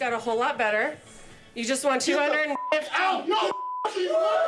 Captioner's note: beep